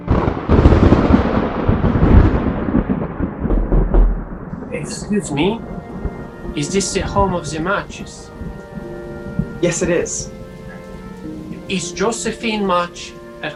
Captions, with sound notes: [thunder] [knock] Excuse me, is this the home of the Marches? Yes, it is. Is Josephine March at home?